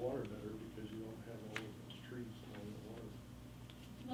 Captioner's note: faintly speaking